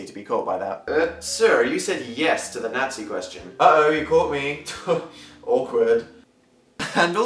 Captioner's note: laugh